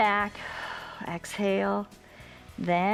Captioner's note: exhales